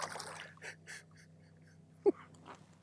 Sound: giggling

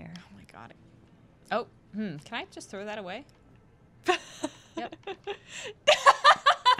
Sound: laughter

